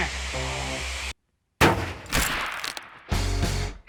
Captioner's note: gun bangs; upbeat music